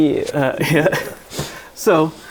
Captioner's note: laughing